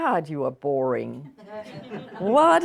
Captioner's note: audience laughing